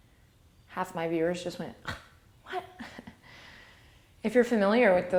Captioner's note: laughs